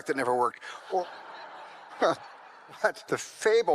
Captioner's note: audience laughs